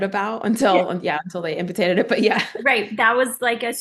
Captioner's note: laughing